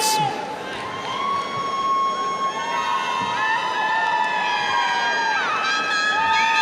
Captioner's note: audience cheers and applauds